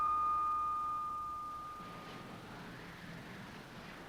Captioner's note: wind whistling